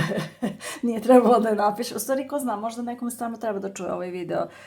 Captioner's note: laughs